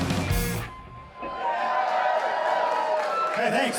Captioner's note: cheering